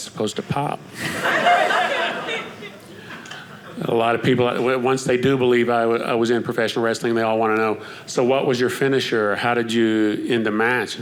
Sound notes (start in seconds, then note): 1.0 audience laughing